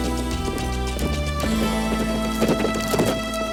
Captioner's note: hooves clop